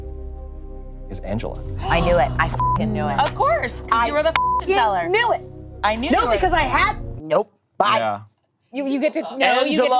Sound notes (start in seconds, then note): 1.6 group gasping; 2.3 beep; 4.2 beep